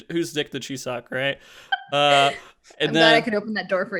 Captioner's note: laughs